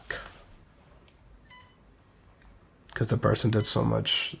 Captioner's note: hospital equipment continues beeping